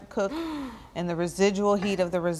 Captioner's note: Bridget gasps